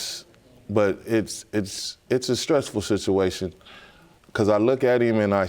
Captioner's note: stammering